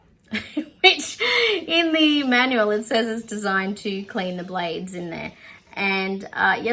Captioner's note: scoffs